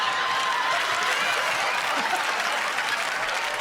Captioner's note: laughter; cheers and applause